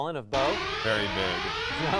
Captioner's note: loud sirens